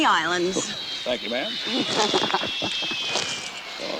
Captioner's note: Sugar laughs